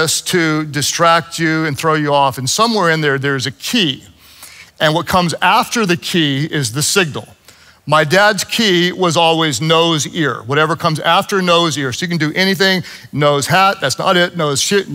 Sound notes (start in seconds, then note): none